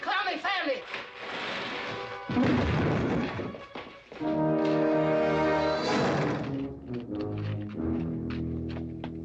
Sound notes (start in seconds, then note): 2.3 loud thump